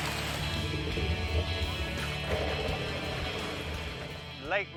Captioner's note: running water; water draining